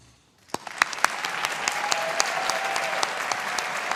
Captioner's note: audience applauding